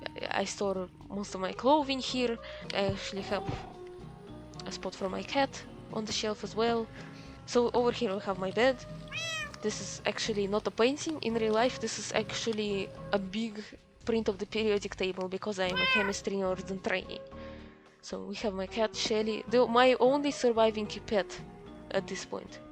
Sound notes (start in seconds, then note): 9.1 adorable cat noise :3